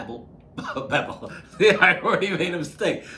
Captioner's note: laughing